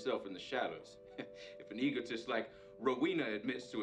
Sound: chuckles

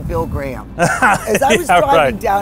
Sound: laughs

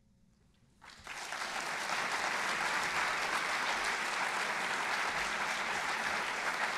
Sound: applause

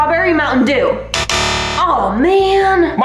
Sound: buzzer dings

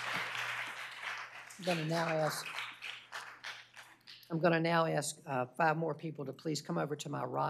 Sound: applause

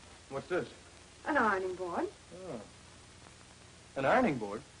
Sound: none

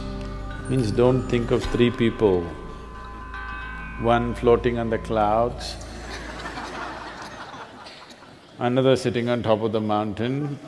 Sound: laughter

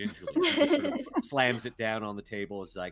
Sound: all giggling

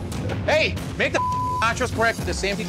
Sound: beep

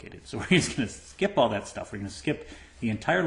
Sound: laughter

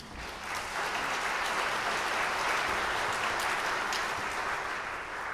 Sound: audience applauding

